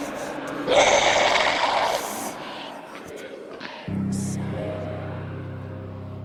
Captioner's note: creature growls